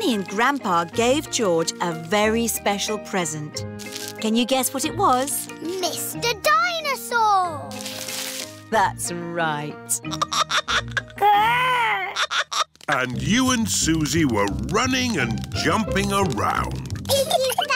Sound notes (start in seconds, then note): 10.1 giggling